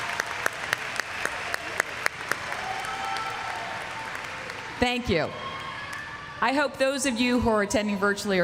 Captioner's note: applause